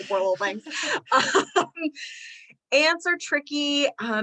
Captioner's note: laughter